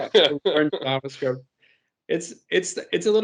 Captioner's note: group laughing